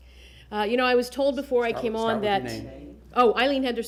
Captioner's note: laughter